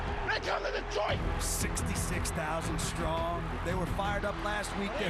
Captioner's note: cheering